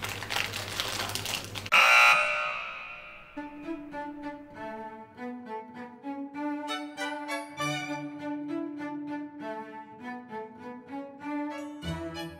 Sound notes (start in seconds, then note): 0.0 paper crinkling; 1.7 foul buzzer; 3.4 instrumental